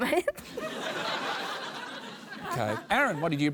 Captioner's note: laughter